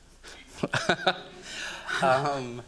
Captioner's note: chuckling